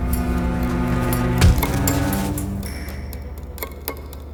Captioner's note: hand punching; dramatic music